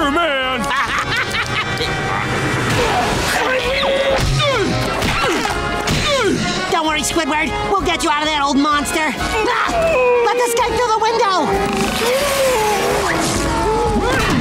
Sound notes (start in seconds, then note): 0.6 laughing; 4.3 grunting